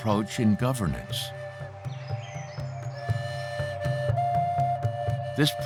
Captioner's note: birds calling